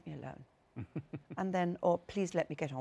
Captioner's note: chuckles